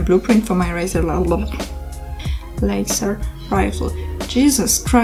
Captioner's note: struggling with english